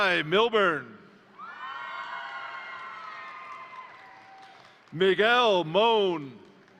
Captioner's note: crowd cheering; crowd applauding